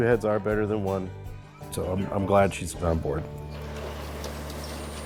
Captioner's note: garage door opening